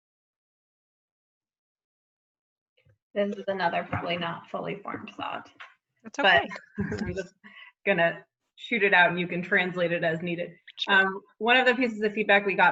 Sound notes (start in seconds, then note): 6.3 laughs